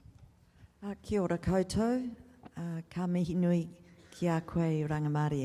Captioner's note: speaks in Maori